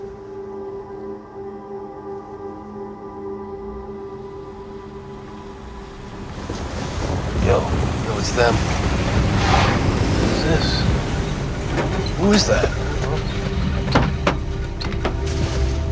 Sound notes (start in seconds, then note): 3.8 car engine